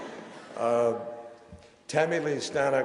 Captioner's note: laughter